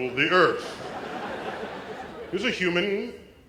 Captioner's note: laugh